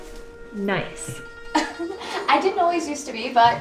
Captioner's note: chuckles